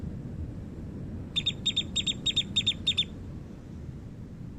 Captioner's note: bird sound